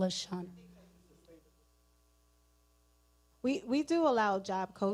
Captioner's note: person speaking away from mic